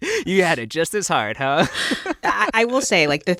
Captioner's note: laughter